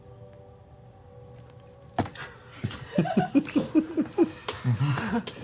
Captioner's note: laughter